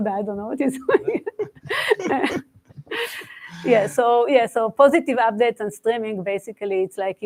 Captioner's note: laughs